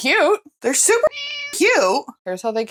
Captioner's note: meow